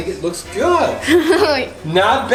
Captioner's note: giggles